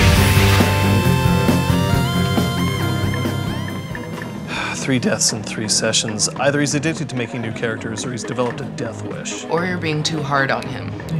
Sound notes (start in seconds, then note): 4.4 sigh